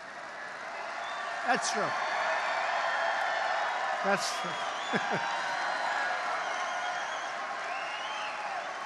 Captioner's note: applause; laughs; applause